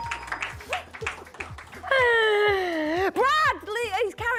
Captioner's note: laughing